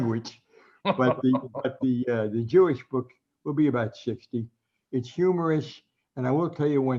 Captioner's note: laughs